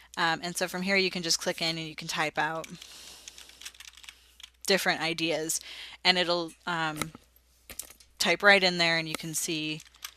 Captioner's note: typing sounds